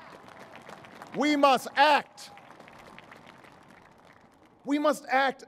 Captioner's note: applause